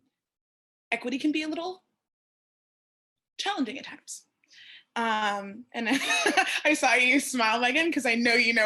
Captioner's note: laughter